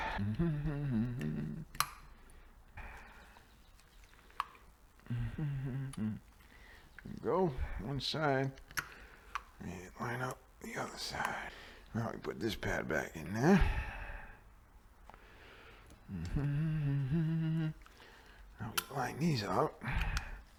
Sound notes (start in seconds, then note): 0.0 humming; 5.0 humming; 16.0 humming